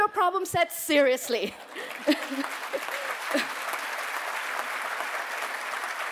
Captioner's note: applause